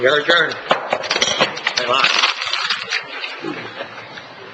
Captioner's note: gavel bang